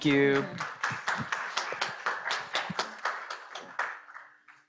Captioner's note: crowd applauds